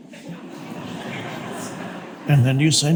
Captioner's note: audience laughs